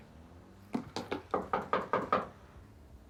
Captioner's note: knocking at door